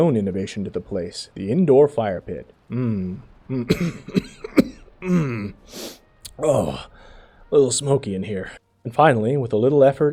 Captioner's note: coughs